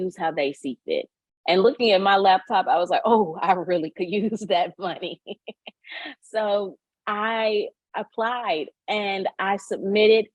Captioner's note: chuckles